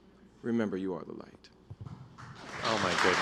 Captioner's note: applause